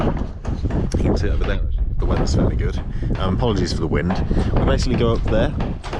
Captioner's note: audio cuts slightly